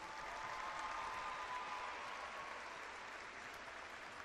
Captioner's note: clapping and cheering